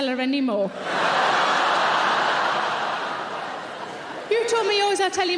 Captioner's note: audience laughing